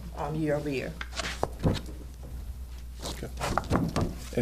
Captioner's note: papers shuffling